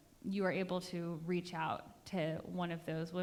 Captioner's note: none